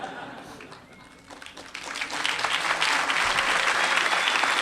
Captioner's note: applause